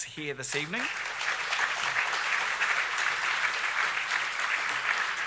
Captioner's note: audience clapping